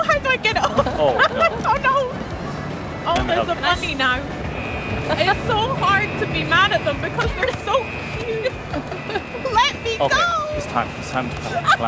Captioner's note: laughter